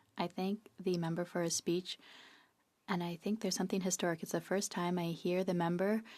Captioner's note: speaking French